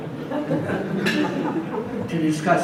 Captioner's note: audience laughs